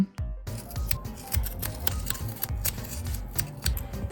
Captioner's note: satisfying cutting sounds